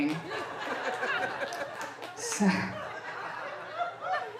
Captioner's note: audience laughing